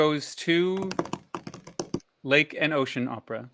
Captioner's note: tabletop drumroll